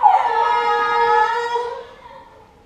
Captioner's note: yawns